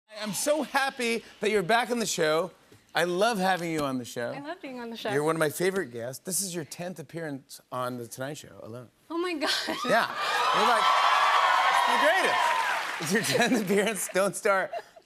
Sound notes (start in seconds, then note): 10.0 cheers and applause